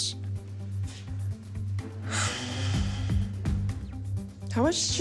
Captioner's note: sighs